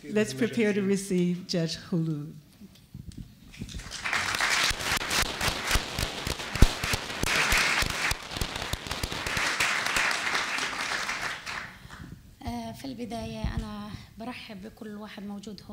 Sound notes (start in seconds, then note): 3.6 applause; 12.9 speaking arabic